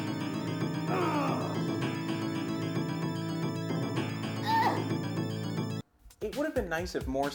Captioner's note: grunting